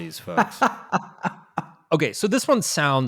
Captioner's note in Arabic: يضحك